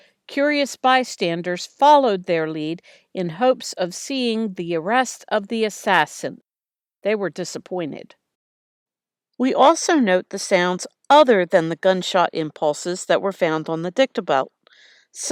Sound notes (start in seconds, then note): none